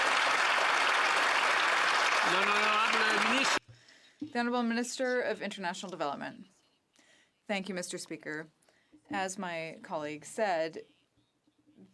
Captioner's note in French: applaudissements